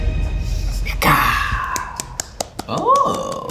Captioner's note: mutters